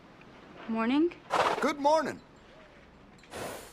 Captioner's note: snorts